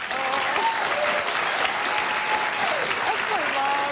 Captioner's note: applause